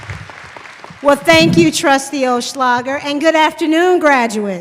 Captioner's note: applause